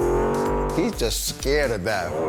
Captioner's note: engine revving